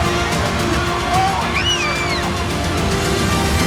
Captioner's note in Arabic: صراخ وتشجيع الأسرة